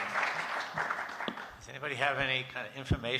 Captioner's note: applause